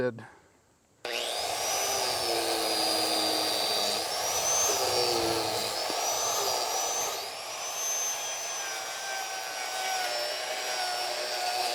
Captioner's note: grinder revving